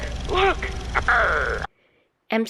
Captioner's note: imitating pirate